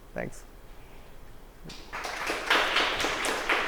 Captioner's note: applause